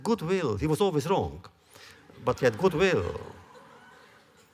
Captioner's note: laughter